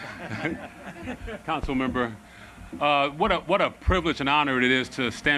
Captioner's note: laughter